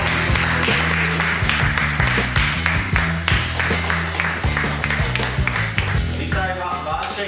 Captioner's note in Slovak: Potlesk